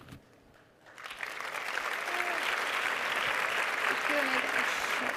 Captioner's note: audience applauding